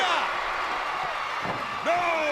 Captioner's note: crowd cheering